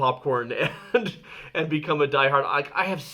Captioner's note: laughing